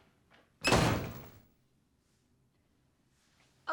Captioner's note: door slams